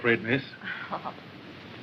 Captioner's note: laugh